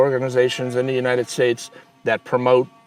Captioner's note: tool grinding